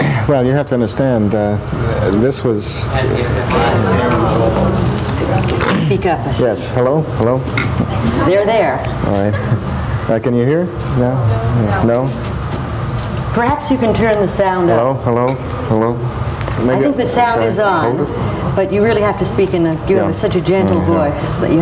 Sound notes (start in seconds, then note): 2.7 audience muttering